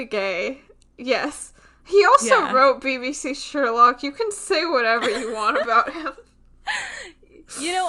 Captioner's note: laughs